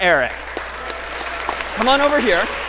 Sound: applause

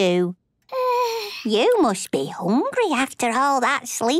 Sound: yawns

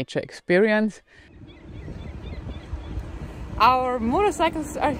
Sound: seagulls cawing

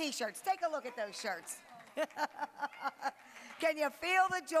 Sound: laughing

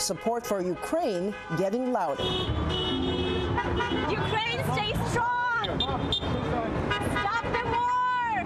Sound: horns honking

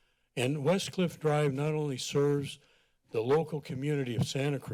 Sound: none

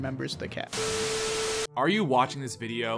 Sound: TV static or something

